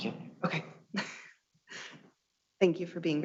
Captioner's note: chuckles